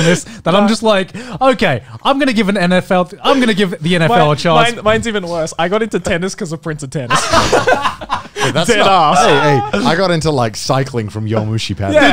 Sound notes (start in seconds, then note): 7.1 everyone laughs